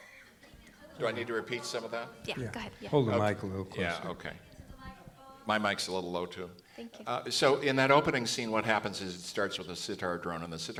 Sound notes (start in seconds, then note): 0.0 background comments